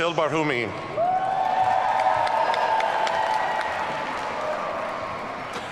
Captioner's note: audience cheering